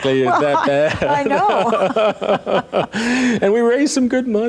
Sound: laughing

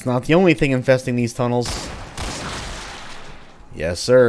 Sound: Colt firing, Gasbag exploding

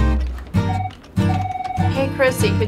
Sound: phone ringing

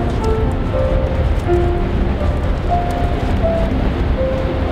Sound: wet footsteps

